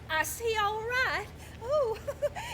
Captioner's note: nervously laughs